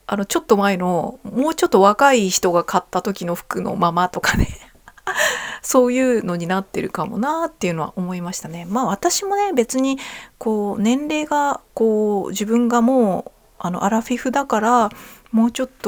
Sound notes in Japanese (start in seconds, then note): 4.7 笑い